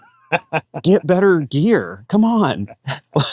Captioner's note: laughs; chuckles